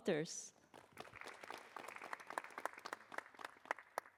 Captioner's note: applause